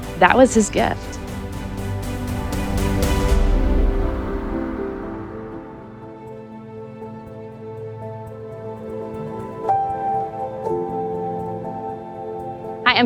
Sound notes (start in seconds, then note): 0.0 upbeat music; 3.9 air whooshing; 3.9 gentle hopeful music; 9.9 gentle piano music